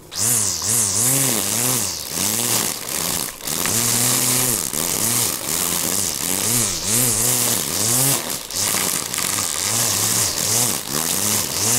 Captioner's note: sounds of a scratchy motor running